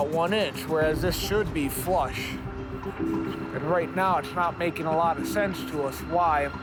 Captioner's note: none